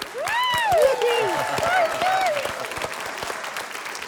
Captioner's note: cheering, applause